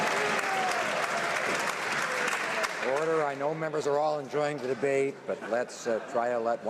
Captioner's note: some Applause